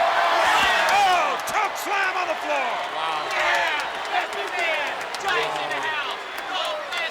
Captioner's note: audience cheering